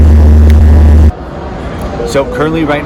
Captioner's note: engines vibrating; fingers snapping